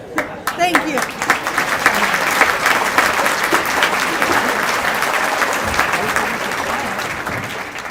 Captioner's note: applause